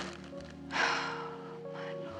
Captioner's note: sighing